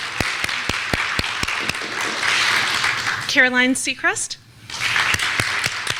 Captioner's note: clapping